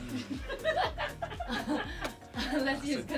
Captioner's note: producers laugh